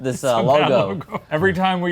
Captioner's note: laughs